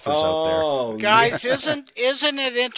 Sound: chuckles

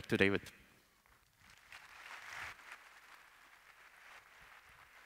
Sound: applause

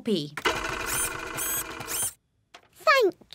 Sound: printer whirring

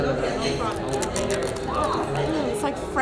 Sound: cone crunching

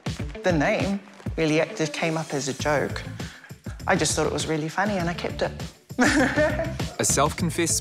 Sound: laughs

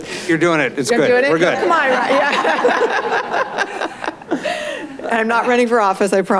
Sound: everyone laughs

